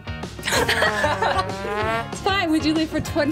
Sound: laugh

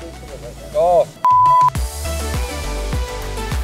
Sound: beep; upbeat music

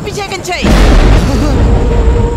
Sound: thunder rumbling

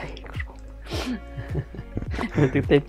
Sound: laughs in Lithuanian

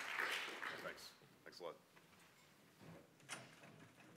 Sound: applause

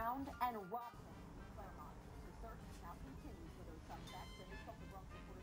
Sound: TV and Radio on

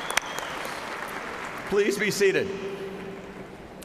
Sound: applause

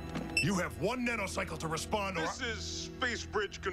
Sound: beep

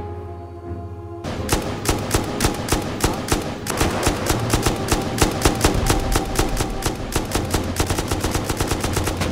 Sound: gunfire

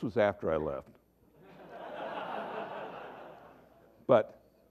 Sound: laughter

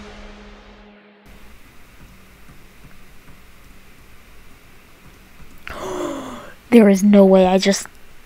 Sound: gasp

